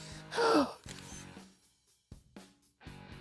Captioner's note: digital camera clicks